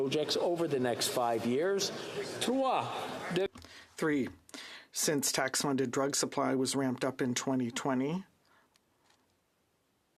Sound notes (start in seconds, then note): 6.4 speaking in French